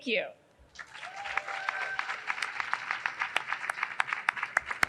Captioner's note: audience cheering